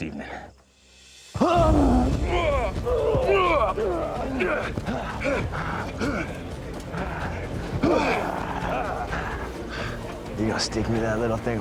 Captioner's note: grunting